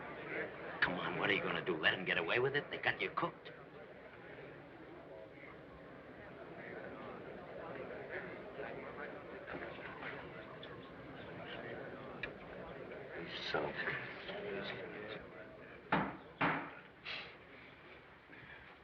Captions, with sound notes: Come on, what are you going to do, let them get away with it? They've got you cooked. He's sunk. (GAVEL POUNDING)